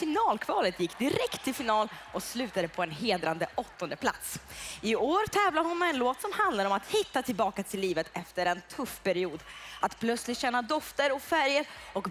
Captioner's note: Applåder